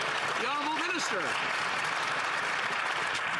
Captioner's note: some Applause